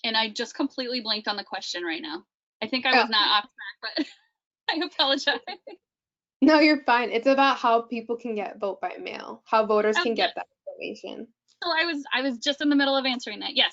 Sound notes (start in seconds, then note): 4.7 laughing